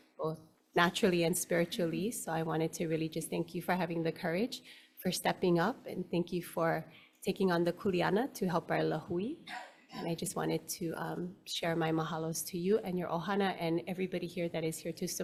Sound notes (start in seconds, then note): 9.1 speaks foreign language